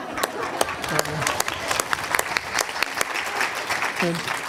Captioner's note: applause